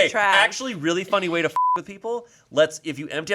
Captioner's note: beep